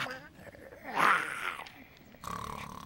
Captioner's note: growls; snoring